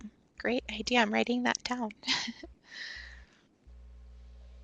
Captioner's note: chuckles